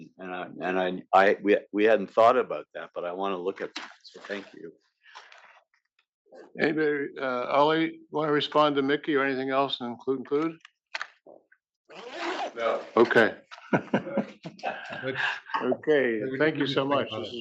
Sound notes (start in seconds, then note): 12.6 laugh